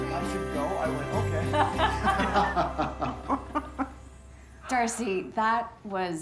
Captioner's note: all laughing